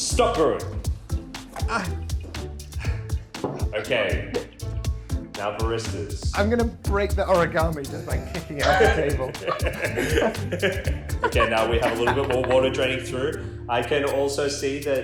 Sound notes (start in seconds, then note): 9.5 laughing